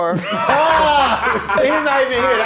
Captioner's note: all laughing